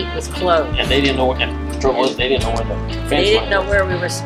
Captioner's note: man in background talking